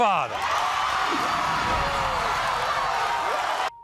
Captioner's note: audience cheers